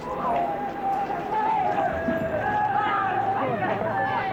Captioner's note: paparazzi yelling